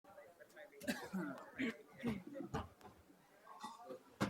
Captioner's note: crowd chattering